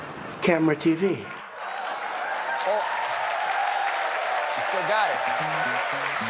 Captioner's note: cheers and applause